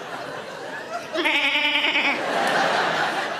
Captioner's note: audience laughs; Sarah bleats; audience laughs